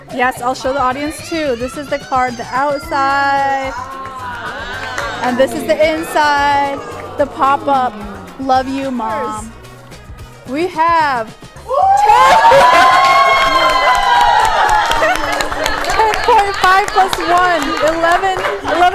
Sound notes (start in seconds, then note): 3.8 audience gasping in awe; 11.6 cheering